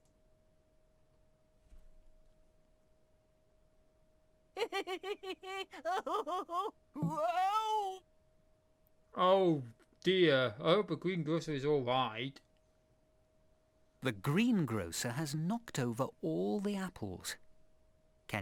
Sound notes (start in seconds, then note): 4.5 greengrocer laughing whilst being tickled